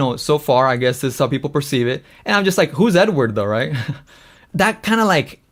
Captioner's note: laughs